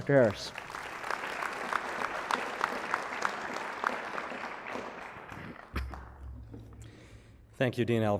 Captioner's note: applause